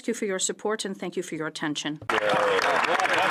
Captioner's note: speaking french